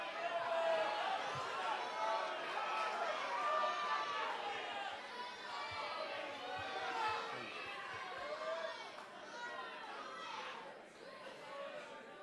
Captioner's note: crowd chatter